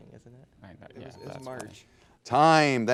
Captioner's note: bell dinging